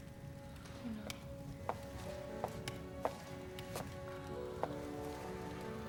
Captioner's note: footstep